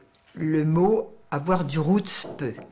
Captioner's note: foreign language